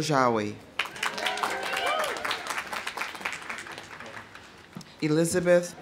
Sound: audience applauding; audience cheering

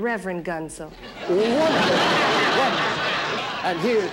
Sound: audience laughing

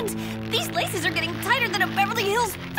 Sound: gasping

